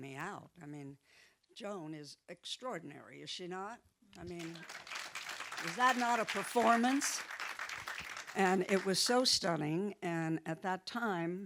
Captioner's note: audience clapping